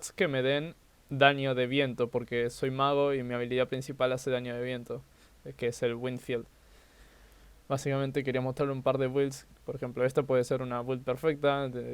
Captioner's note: explaining build in spanish